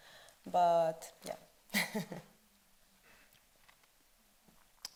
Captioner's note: chuckles